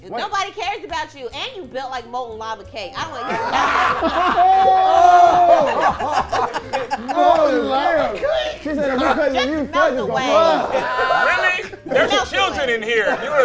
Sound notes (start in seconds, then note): 3.1 group laughs